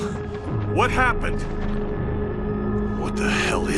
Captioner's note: tense uneasy music; wind whistling